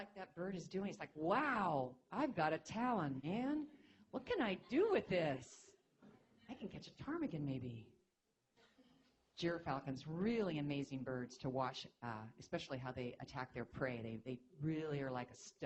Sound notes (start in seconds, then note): none